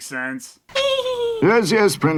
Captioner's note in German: kichert